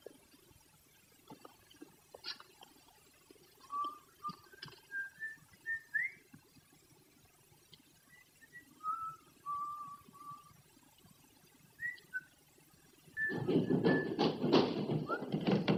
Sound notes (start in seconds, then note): 4.8 whistling; 13.3 hurried footsteps